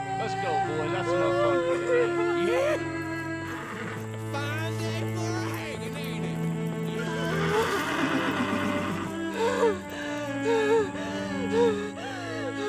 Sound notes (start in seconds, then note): 2.9 man whoops; 6.5 horse whinnies; 9.8 Brigit sobbing